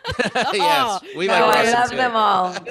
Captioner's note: laughing